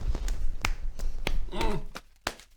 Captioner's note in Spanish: golpe golpe golpe